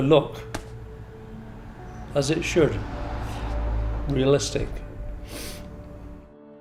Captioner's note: sniff